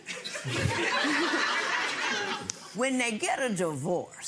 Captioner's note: audience laughing